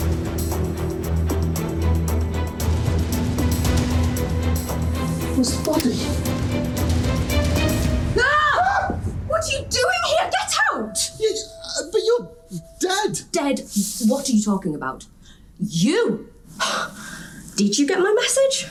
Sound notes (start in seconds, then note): 8.1 screams; 8.2 screams louder